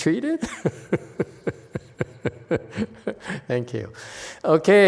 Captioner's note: laughs